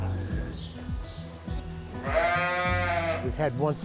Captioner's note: lambs baaing